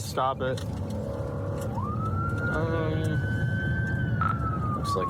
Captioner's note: siren wailing